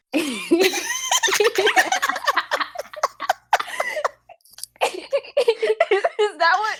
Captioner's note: laughter